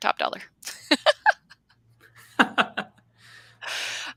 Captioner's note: laughing